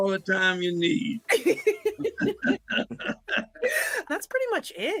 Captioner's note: both Laugh